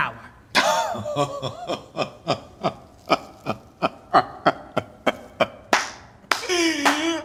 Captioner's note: laughing